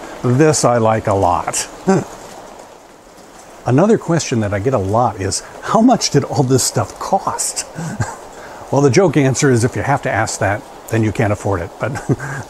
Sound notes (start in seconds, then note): 1.9 laughs; 7.4 laughs